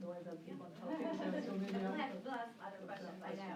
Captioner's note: laughter